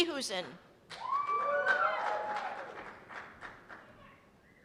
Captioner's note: cheers and applause